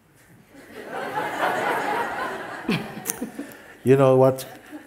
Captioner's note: laughter